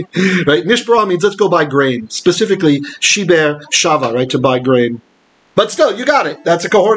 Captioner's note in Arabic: بالعبرية; بالعبرية